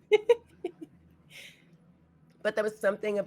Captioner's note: laughs